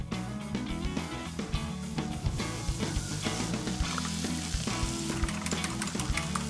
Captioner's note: upbeat music; pan sizzling